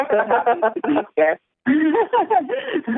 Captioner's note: laughter